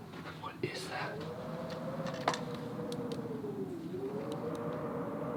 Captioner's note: wind whistling